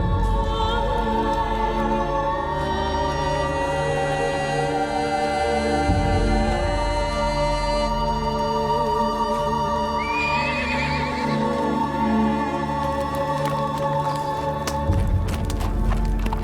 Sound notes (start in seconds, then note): 10.0 horse noises